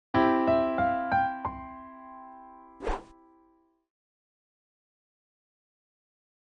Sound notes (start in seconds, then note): 0.2 piano intro playing; 2.8 swooshes